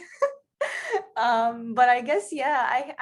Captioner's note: laughing